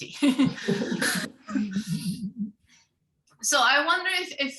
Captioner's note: all laughing